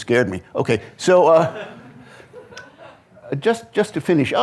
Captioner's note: audience laughing